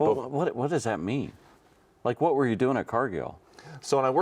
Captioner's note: none